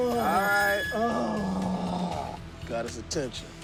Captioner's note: grunting